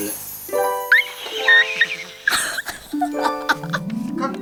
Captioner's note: screamsss